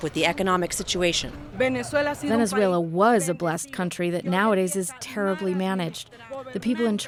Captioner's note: through translator